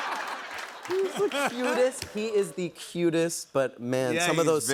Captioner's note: laughter; normal voice